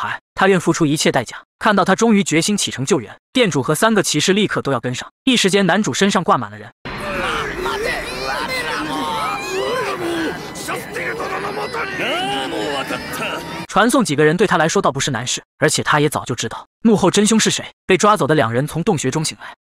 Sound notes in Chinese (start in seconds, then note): 6.9 嘈雜